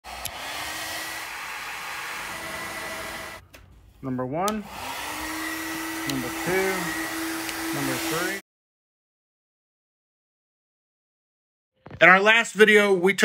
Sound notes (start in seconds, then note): 0.0 motor whirring